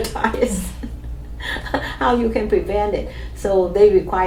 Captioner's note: laughs